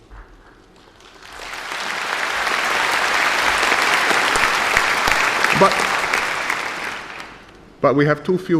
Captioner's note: applause